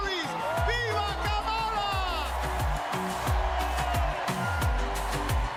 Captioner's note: speaking another language